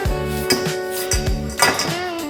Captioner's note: metal clanking